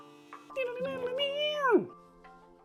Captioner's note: guitar mouth noises